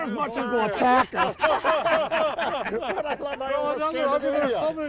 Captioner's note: everyone laughing